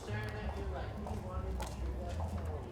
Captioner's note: indistinct chatter